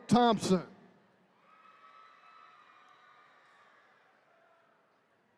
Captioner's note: attendees cheering